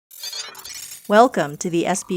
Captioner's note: computer sounds